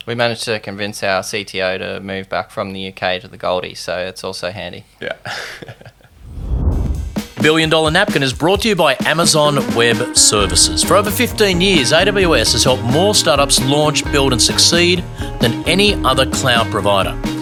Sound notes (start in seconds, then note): 5.0 laughs; 6.8 upbeat music